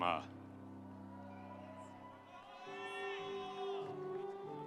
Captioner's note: audience cheering